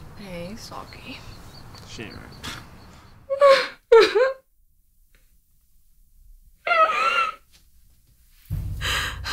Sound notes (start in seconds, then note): 4.0 sobbing